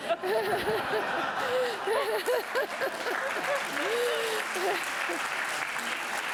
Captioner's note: audience laughing; audience applauding